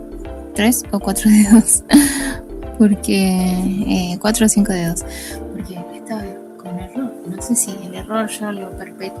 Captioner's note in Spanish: risas